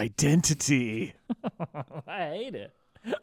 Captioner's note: laughing